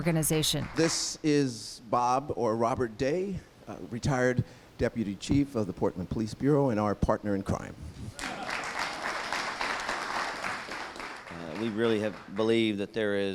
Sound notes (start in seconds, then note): 8.1 applause